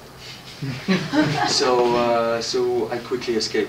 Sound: laughter

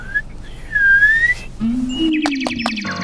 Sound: whistle

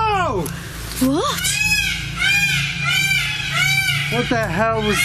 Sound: peacocks squawking

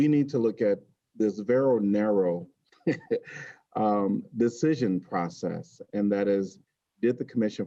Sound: laughter

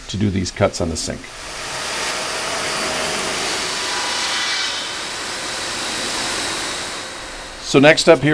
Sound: machine noise

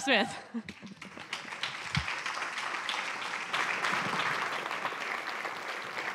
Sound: applause

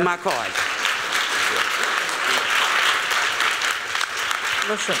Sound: applauding

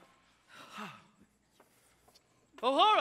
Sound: sighs

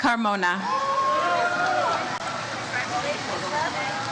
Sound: audience cheers

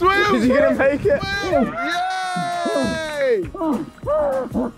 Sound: men cheering

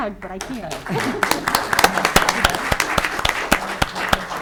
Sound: audience clapping

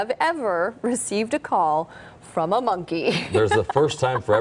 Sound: laughter

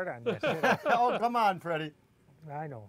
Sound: laughter

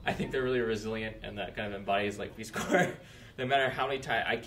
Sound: laughs

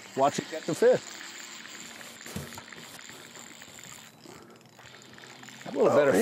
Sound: reel cranking

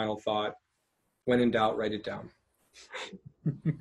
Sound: laughing

